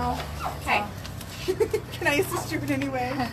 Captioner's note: giggles